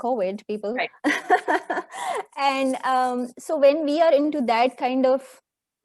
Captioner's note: laughs